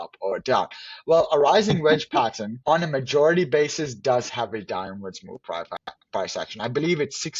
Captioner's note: laughs again